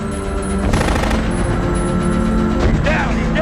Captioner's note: machine gun firing